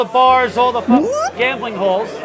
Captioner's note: voiceover